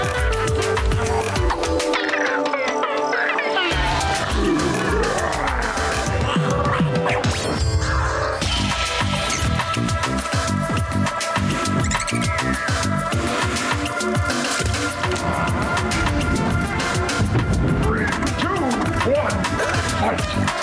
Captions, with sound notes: [Roaring] Three, two, one! Fight!